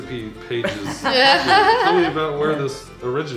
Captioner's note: laughing